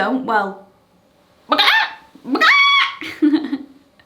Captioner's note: does chicken noise